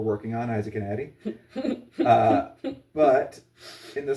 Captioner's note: giggles in "not anymore"